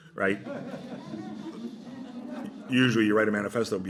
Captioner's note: laughter